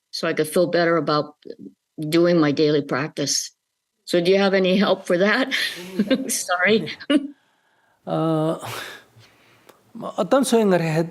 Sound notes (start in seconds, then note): 5.5 questioner laughter